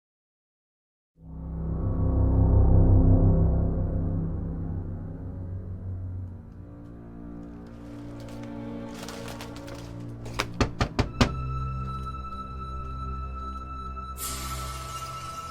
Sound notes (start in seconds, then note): 1.4 eerie dramatic music; 7.4 leaves rustling; 10.2 Nick knocking; 10.4 eerie dramatic music